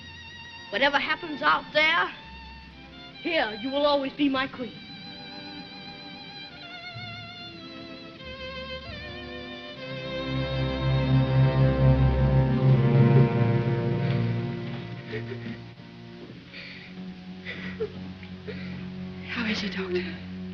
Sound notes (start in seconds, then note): 15.0 sobbing